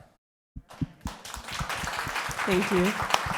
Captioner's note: applause